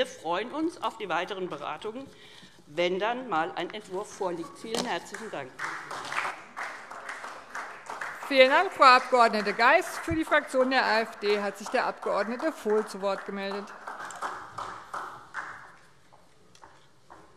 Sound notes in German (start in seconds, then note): 6.7 Beifall SPD